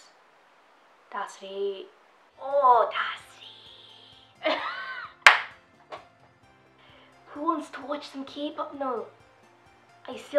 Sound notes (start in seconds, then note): 4.4 laughing